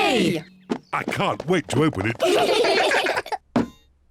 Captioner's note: all giggle